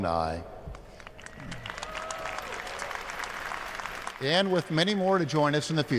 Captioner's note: applause